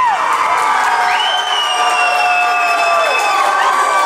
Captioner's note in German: Applaus